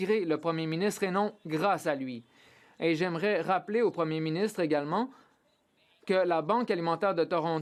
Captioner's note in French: voix de l'interprète